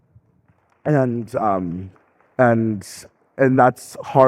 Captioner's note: audience clapping